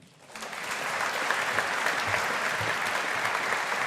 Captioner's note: audience applauding